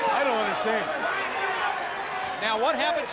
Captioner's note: crowd chatter